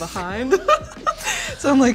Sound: girls laughing

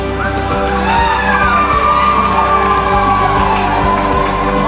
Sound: everyone cheering

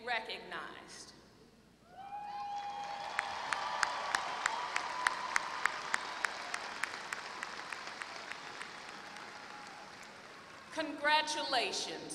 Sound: applause

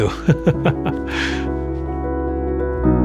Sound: short laugh

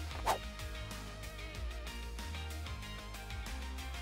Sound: whooshing

